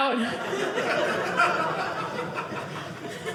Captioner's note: audience laughing